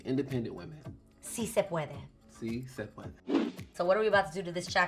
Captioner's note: speaking in foreign language